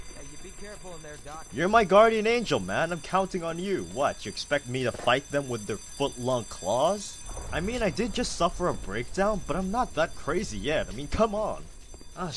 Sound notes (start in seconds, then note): 7.2 structural groaning